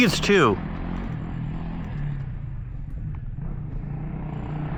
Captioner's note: engine revving